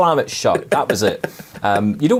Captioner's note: laughing